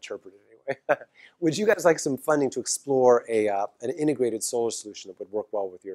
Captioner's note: laugh